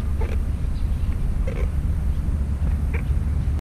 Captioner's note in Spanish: ruidito de goma